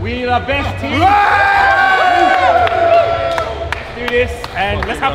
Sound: group cheers

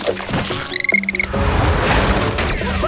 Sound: chittering

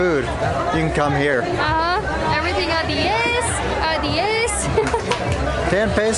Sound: laughter

